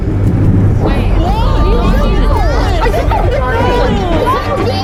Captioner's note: overlapping chatter